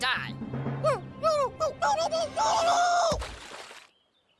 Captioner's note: Kenny screaming